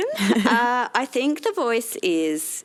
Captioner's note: chuckles